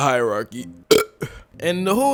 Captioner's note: narrator burps